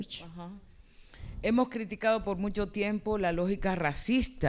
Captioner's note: speaking spanish